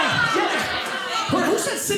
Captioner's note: audience members yelling